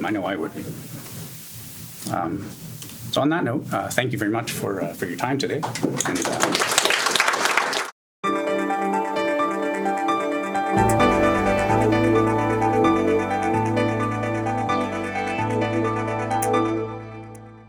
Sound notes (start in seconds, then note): 5.6 applause; 8.4 electronic music